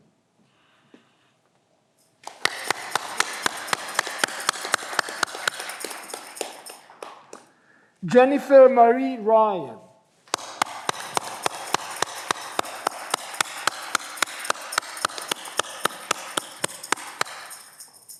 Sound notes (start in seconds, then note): 10.2 audience clapping